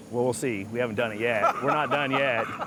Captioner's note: laughing